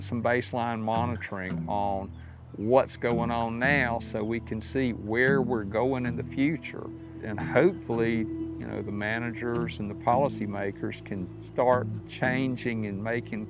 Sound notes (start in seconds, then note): 7.4 clears throat